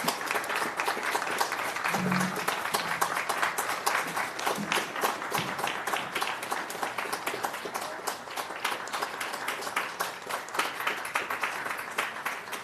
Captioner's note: applause